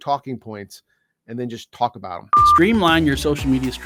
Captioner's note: test pattern beeps